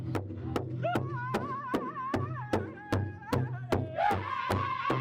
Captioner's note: drum beating; group chanting